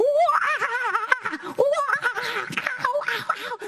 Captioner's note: chattering